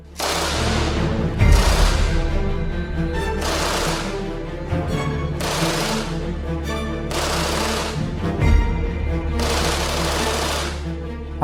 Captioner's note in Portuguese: sons de tiro